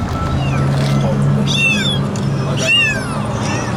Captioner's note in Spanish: Maullidos